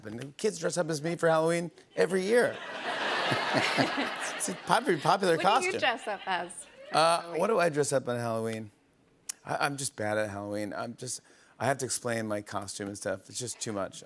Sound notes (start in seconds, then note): 2.3 laughter